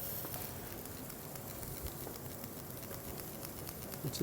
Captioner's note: slight sizzling noise